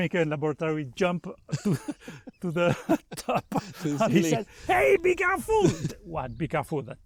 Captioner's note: laughter